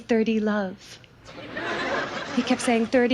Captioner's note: audience laughs